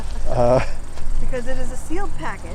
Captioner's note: laughing